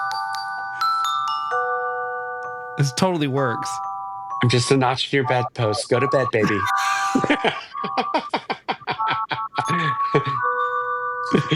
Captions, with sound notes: (soft music) This totally works. I'm just a notch for your bad post. Go to bed, baby. (laughing)